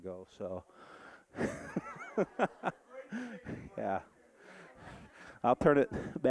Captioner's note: audience laughing